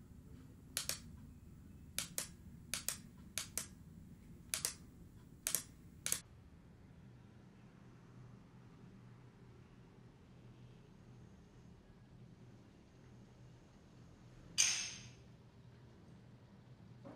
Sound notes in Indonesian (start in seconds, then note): 0.7 klik; 2.7 klik; 4.5 klik; 4.5 klik klik